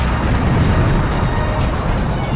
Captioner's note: explosion